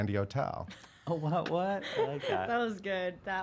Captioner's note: laughing